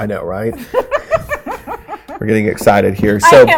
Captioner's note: laughing